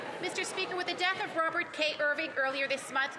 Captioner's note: applause